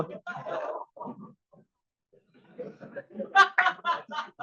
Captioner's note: group laughs